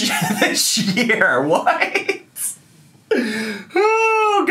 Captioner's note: laughing